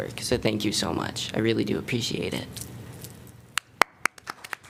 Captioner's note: applause